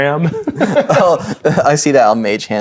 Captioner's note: chuckling; laughing